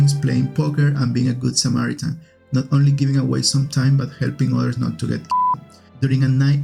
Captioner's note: beep